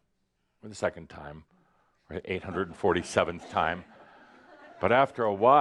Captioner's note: a few chuckles